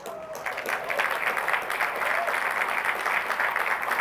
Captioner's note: applause